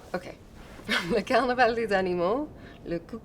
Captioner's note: French spoken audio